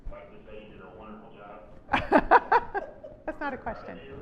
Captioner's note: laughs